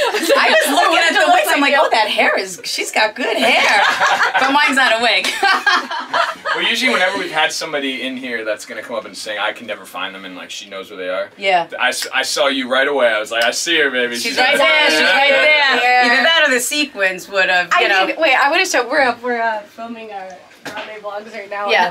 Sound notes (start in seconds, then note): 3.4 laughing; 5.2 laughs; 13.5 clicks fingers